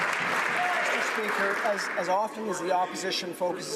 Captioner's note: some Applause